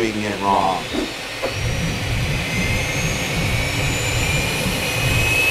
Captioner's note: jet engine